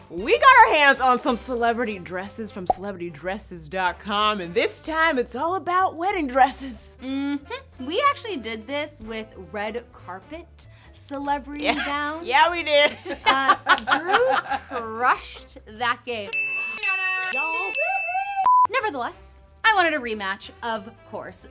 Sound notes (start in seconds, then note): 16.3 dinging